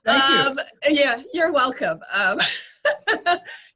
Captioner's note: laughs